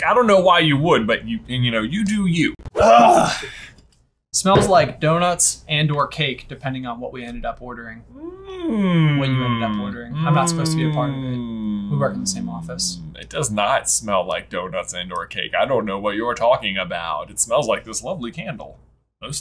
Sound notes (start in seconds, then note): 2.8 groans loudly